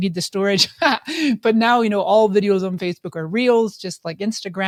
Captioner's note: laughs